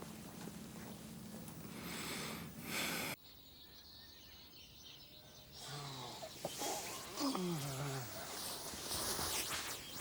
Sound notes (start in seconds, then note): 5.2 birds chirping